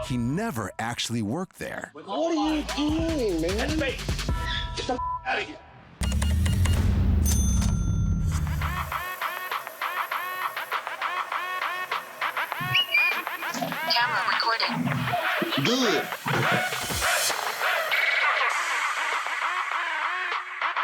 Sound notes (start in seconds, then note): 12.2 whistle